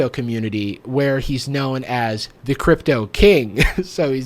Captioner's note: laughs